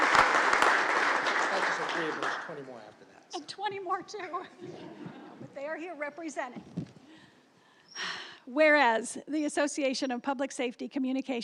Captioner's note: applause